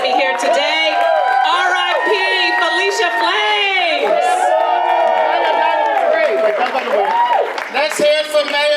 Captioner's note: audience applause